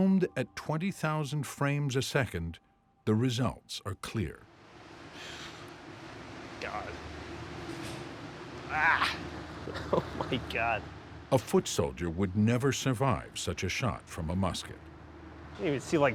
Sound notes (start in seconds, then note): 8.6 exclaims; 9.6 chuckles